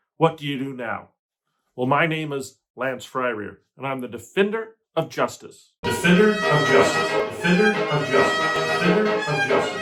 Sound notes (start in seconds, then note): 5.9 echoing